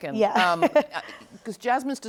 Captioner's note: chuckles